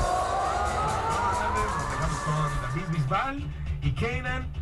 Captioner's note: radio dialogue, foreign